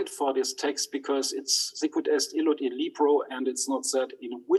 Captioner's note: speaks in foreign language